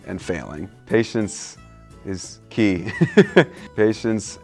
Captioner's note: laughs